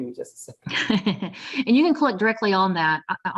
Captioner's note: laughs